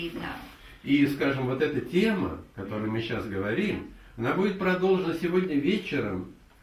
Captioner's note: speaks in the Russian language